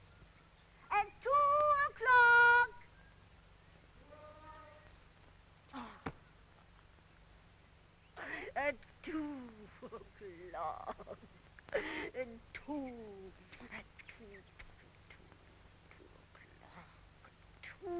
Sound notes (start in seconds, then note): 5.7 Rosalind sighs; 14.5 Rosalind kissing